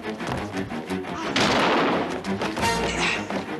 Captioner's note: yells; gunshot